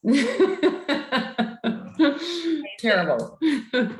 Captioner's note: laughter